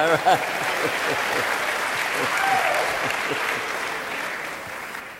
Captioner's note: audience laughing and applauding